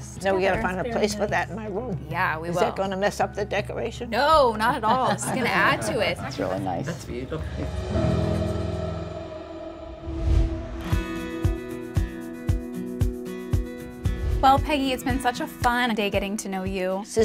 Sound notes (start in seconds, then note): 4.7 family laughs; 10.0 upbeat music